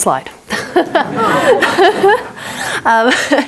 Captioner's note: all laughing